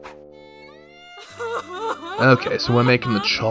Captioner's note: overly Dramatic Crying